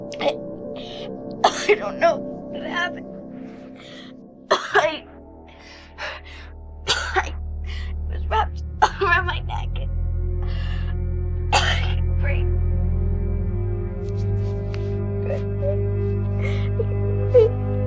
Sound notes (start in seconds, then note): 6.8 coughing; 10.3 emotional music; 15.2 Tiffany crying